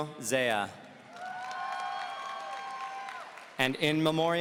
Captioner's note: audience cheering